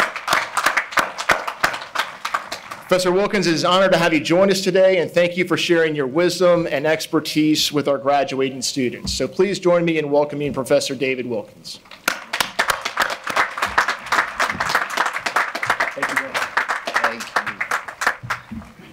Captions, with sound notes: Professor Wilkins it is an honor to have you join us today and thank you for sharing your wisdom and expertise with our graduating students. So please join me in welcoming Professor David Wilkins. (audience applauding) Thank you very much. Thank you.